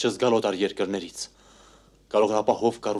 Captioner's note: sigh